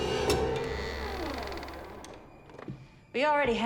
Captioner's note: door creaks